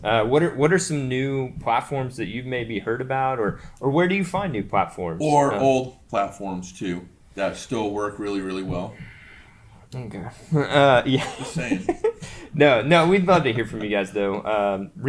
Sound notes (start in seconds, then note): 10.3 laughing